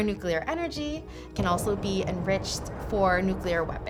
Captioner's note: bomb explodes